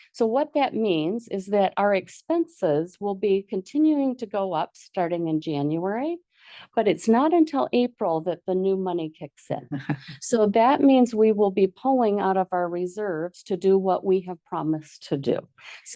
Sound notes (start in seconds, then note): 9.7 board member laughs